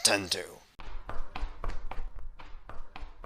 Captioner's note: once again, incredibly loud footsteps!